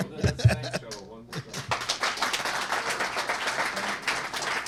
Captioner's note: applause